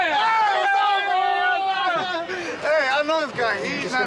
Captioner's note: shouting